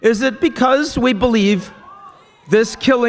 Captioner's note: screaming